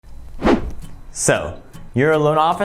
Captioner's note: air whooshing